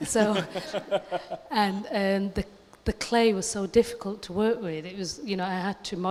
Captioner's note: laughter